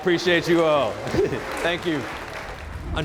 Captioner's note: crowd claps